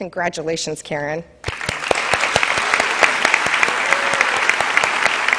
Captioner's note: cheers and applause